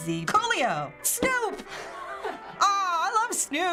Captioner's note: Finebros laughs